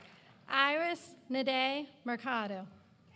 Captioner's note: applause